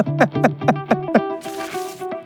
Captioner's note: laughing